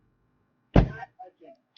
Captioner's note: door slams